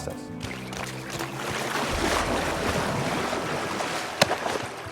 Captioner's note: water rushing